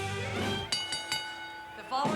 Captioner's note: bell chimes